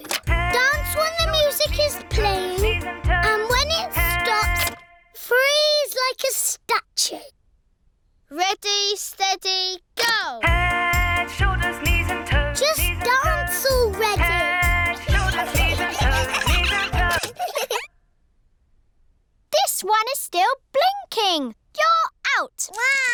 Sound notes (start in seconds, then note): 0.1 music playing on speaker; 4.5 music stops; 14.9 giggling; 17.0 music stops